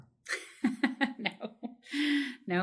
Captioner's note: laugh